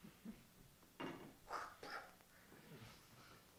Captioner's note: spits